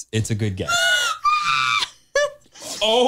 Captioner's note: laughs